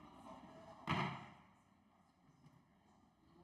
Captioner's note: none